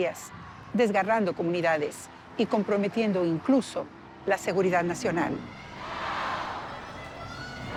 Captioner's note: crowd